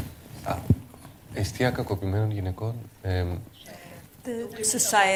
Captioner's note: speaking greek